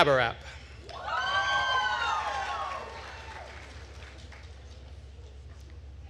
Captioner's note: attendees cheering and applauding